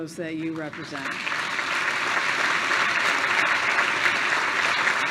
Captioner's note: applause